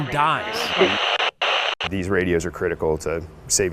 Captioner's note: static hissing